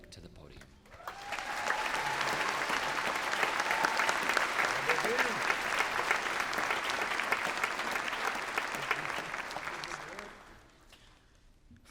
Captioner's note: cheers and applause